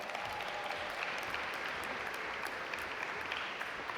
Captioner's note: audience applaud